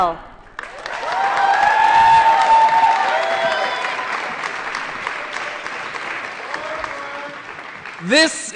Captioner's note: applause & Cheering